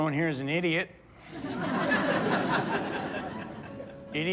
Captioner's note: audience laughs